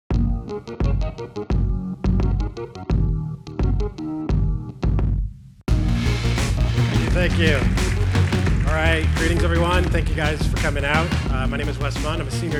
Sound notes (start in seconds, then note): 0.1 techno music; 6.9 applause